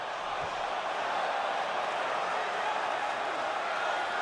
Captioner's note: crowd chattering